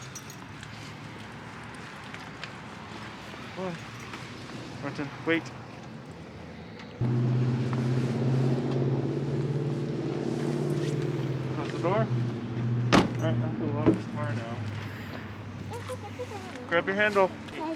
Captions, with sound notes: Norton wait (Busy street traffic) Close the door. Alright, I have to lock the car now. Grab your handle.